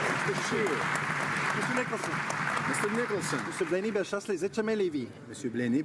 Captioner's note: cheering and Applause